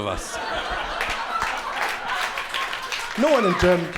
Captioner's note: crowd laughing